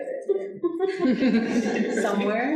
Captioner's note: audience laughing